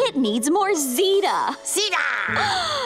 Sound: gasps

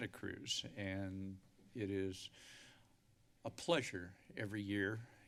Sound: inhales

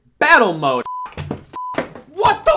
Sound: beeping sound effect

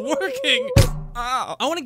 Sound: weakling noises; whack

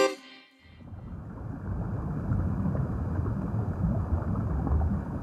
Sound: under water noise

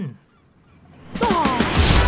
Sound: scoffs; energetic music swells

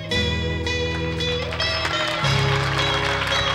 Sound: melancholy rock music; audience clapping

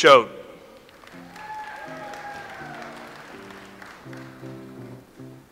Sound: audience applauds

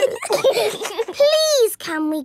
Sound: giggling

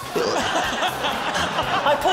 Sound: laughter

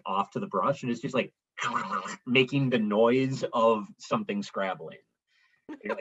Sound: scrabbling

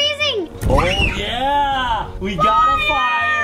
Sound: screams

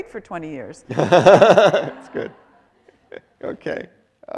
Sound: laughing

